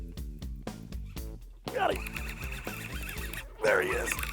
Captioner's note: lively rock music; reel whirring